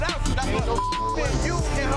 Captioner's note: beep